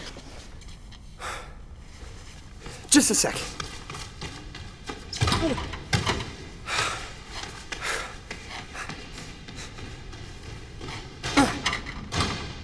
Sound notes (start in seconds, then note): 1.4 Sebastien sighs; 1.9 fleet footsteps echo; 5.1 doors rattle; 6.2 fleet footsteps echo; 6.3 Sebastien sighs; 11.3 Sebastien grunts